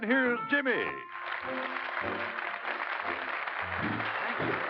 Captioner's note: applause